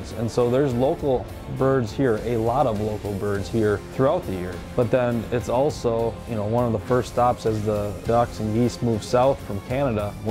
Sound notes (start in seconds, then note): none